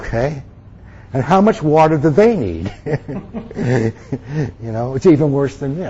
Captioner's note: laughs